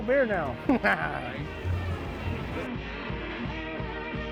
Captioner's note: chuckling